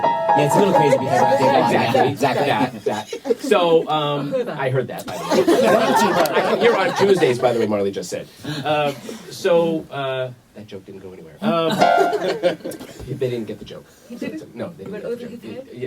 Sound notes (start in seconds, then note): 0.0 playing scary-sounding music on piano; 11.4 laughter; 11.8 slams piano keys